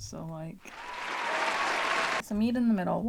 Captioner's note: applause